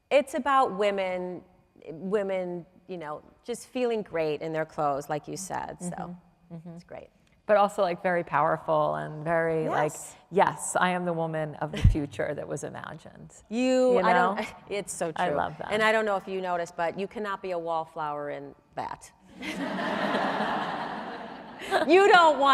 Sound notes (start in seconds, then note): 19.4 audience laughs